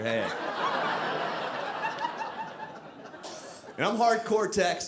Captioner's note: audience laughing